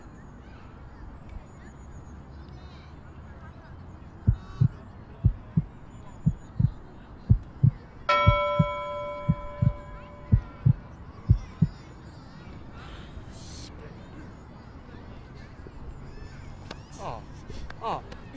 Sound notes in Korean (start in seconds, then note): 4.2 심장 두근거리는 소리